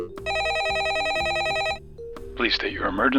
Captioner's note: phone ringing; dialing